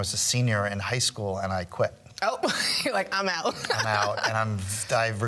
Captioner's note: joyful laughing